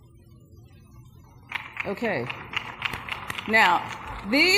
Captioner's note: applause